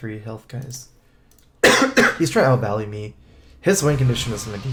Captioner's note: cough cough